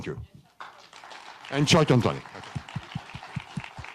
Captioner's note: audience applauding; everyone applauding